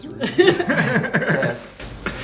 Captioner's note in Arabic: يضحك